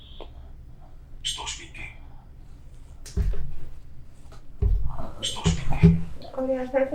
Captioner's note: achmet – artificial male voice